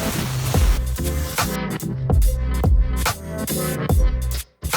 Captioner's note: water spraying; slow jazzy music